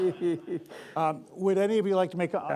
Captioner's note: laughter